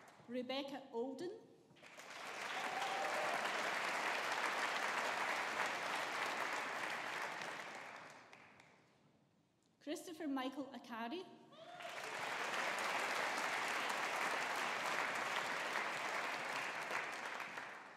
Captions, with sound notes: Rebecca Alden. (AUDIENCE APPLAUDING) Christopher Michael Arcari. (AUDIENCE APPLAUDING)